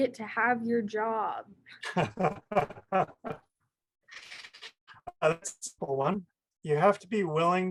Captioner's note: laughs